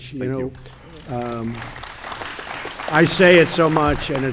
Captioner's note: applause